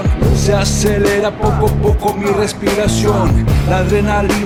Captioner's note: non-english speech